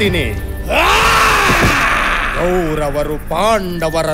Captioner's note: sharp scream